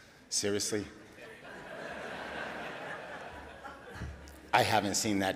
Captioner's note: audience laughing